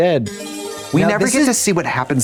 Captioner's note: bright chime